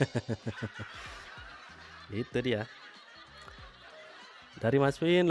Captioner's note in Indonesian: tertawa